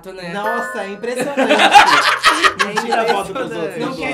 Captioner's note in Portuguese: risos